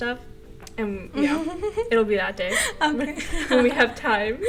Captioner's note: laughter